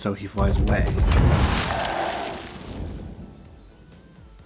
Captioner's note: whoosh